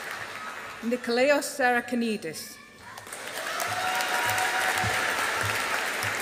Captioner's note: audience applauding